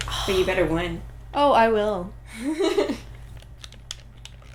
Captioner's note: laughter